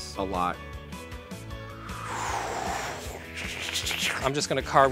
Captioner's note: whooshing